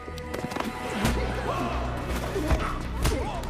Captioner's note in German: menge ringt nach luft